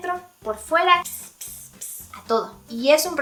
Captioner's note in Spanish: psst